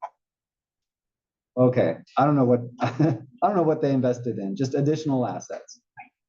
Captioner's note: laugh